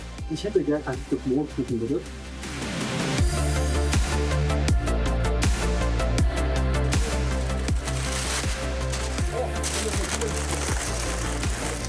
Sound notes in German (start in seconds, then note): 0.0 Fröhliche Musik; 7.8 Papierrascheln